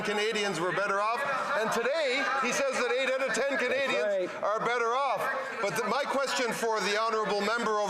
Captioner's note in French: voix de l'interprète